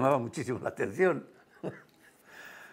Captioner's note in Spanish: ríe